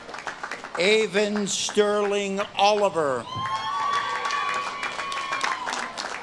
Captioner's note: audience claps and cheers